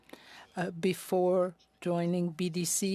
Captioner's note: speaking French